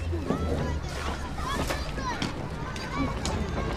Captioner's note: kids chattering